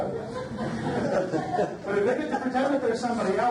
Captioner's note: audience laughs